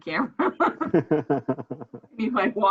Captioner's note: laughs